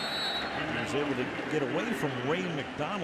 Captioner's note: whistle blows